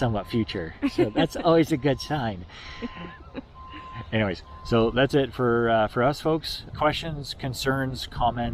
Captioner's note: both laughing